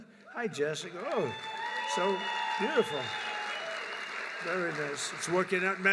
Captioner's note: applause